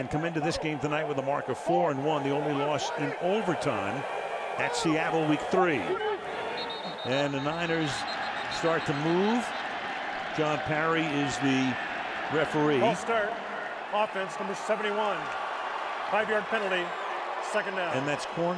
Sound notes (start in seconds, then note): 6.2 whistle blows